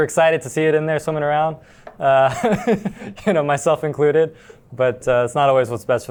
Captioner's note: laughs